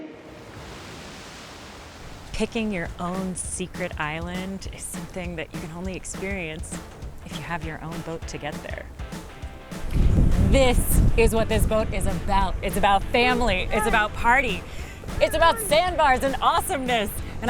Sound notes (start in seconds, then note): 0.7 water sloshing; 9.1 lively music